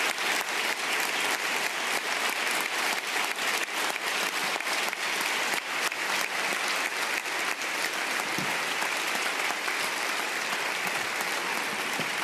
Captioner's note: applause